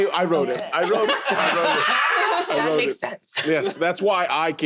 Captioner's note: everyone else: laughter